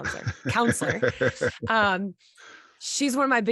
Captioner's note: chuckling